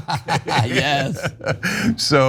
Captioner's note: laugh